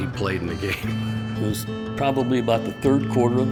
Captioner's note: laughing